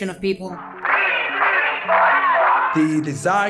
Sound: protesters chanting "BC 44"

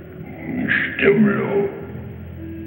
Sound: gibberish grunting

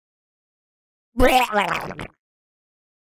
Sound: sound of zombie

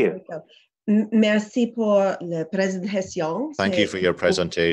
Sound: speaking in French

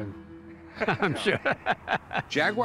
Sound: laughing

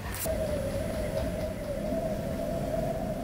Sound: wind whistling & howling

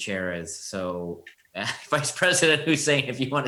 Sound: chuckles

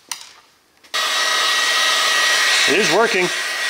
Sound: machine roaring

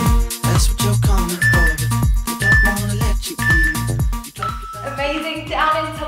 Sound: beeping sound

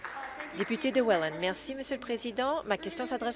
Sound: applause

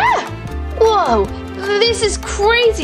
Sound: Gekko Screams; Pumpkin Yells

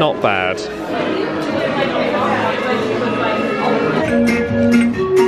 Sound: guests chattering; bright music

